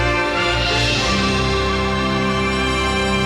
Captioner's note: none